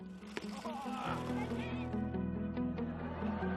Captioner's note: William groans; pleasant music